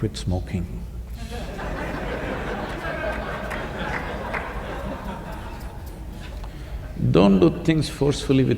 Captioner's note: laughter